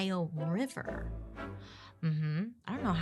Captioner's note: upbeat instrumental music; humming in thought